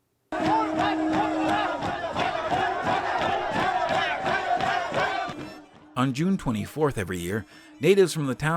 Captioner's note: chanting